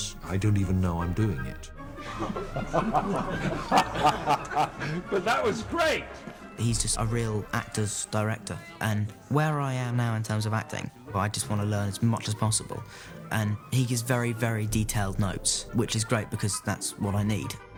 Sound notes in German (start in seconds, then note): 1.9 alle lachen